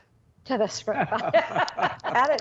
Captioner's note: all laughing